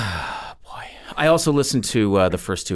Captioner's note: exhales